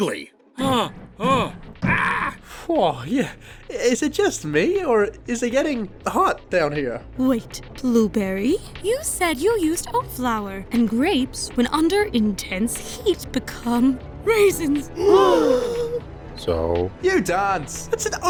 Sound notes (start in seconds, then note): 14.8 gasp